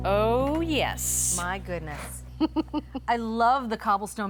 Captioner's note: chuckles